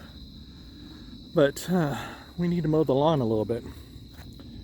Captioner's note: sighs